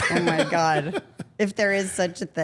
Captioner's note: Paul laughing; laughing